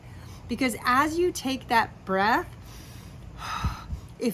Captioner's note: inhales and exhales